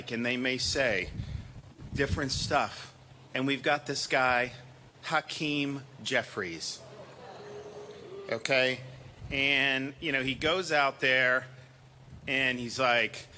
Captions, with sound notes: and they may say different stuff. And we've got this guy, Hakeem Jeffries. (AUDIENCE BOOING SOFTLY) Okay. And, you know, he goes out there and he's like...